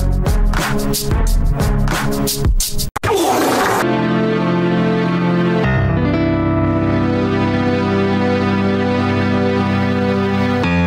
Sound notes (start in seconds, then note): 3.0 flatulence sound effect